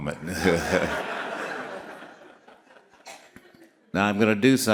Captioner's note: all laughing